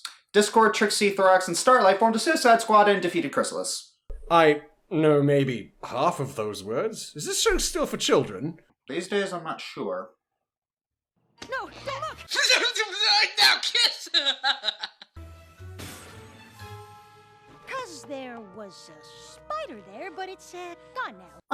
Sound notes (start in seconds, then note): 13.0 laughs; 13.1 mumbles